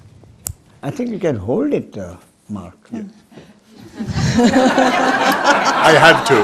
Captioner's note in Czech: smích